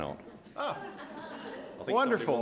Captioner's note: audience laughing